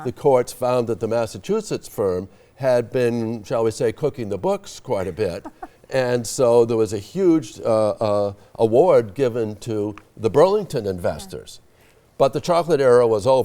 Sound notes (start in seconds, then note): 5.0 laughing